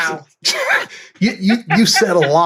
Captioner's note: laughter